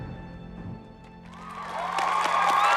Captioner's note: applause